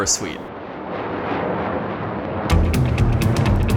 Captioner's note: airplane motor roaring; lively instrumental music